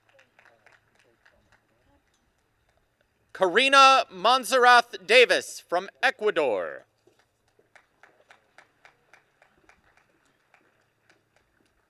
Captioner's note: applause